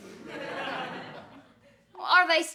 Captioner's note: laughter